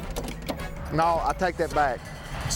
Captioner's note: door handle clicking